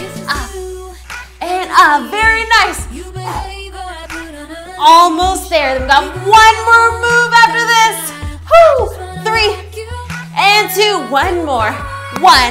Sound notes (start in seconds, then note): 3.4 exhales